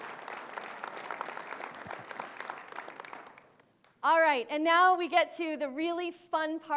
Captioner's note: applause